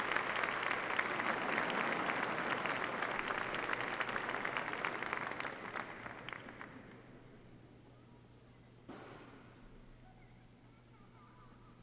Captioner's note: applause